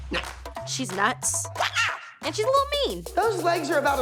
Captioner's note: wild scream